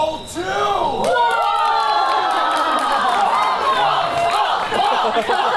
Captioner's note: Lovers applaud